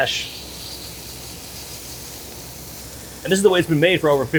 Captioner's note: burgers sizzling